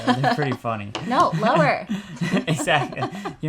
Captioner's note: laughing